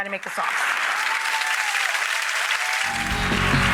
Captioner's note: clapping